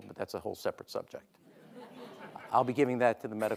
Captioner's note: audience laughing